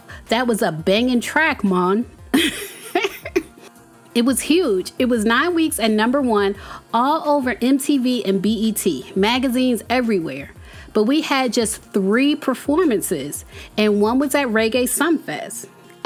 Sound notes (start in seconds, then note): 2.3 laughs